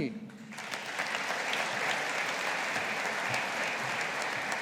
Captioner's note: audience applauding